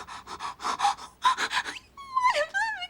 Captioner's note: crying